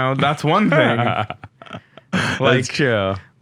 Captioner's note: laughing